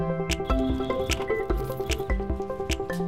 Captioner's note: beep